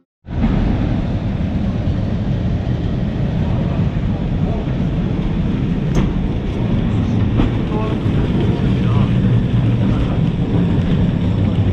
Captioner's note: elevator noise